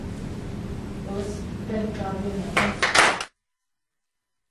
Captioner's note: clapping